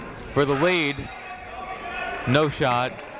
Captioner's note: whistle tweeting